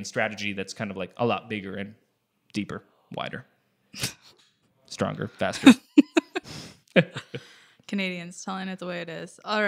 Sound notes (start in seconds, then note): 5.4 laughs